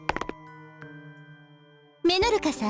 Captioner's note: silence